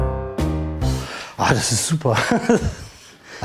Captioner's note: laughter